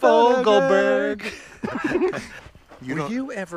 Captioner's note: both laughing